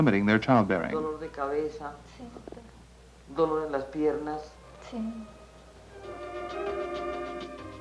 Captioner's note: women conversing in Colombian Spanish